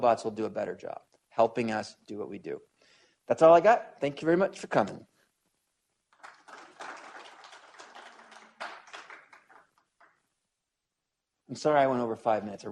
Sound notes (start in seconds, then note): 6.1 applause